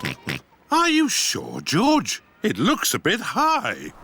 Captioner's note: oinks